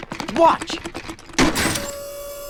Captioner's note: electric whir